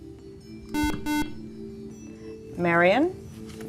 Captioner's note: beeping